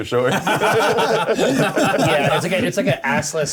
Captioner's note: laughter